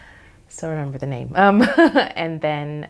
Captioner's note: laughs